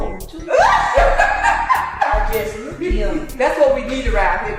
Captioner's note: laugh; laughing